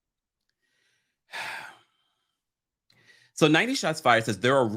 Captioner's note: sighs